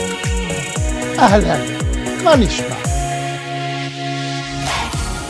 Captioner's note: speaking in foreign language